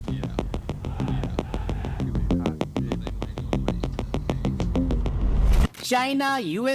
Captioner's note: whoosh